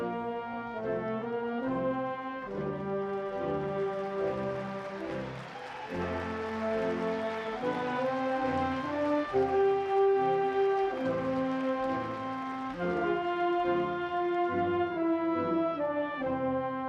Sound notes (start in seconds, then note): 3.7 audience applauding; 9.2 bright instrumental music